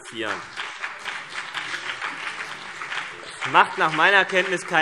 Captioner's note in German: Beifall CDU und BÜNDNIS 90/DIE GRÜNEN